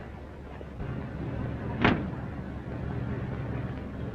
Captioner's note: engine rumbling